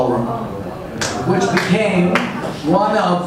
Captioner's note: audience stirs and applauds